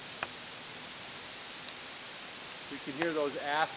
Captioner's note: leaves rustling